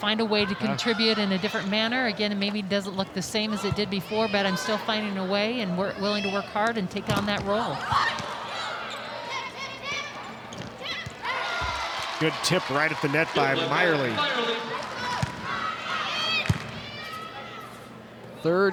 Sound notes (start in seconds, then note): 8.0 players shouting indistinctly; 11.3 audience cheering; 15.2 ball thumping; 16.3 players shouting indistinctly